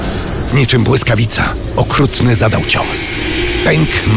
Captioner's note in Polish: szum, iskrzenie